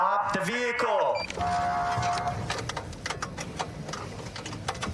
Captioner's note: horn blaring